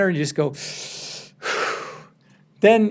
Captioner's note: deep breathing